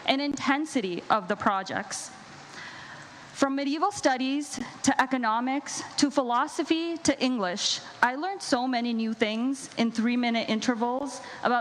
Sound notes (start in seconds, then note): none